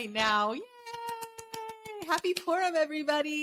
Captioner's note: claps